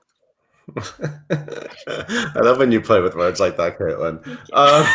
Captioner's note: laughs